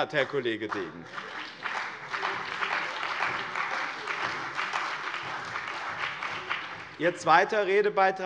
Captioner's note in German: Beifall bei dem BÜNDNIS 90/DIE GRÜNEN und der CDU